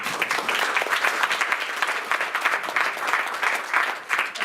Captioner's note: applause